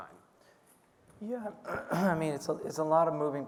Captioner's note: clearing throat